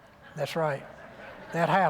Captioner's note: light laughter